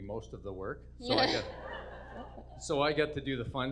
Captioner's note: audience laughs